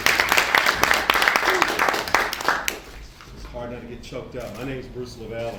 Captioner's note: applause